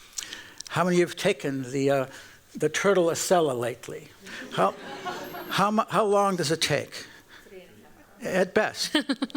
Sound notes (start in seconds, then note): 4.3 laughter